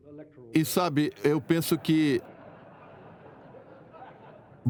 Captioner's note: audience laughing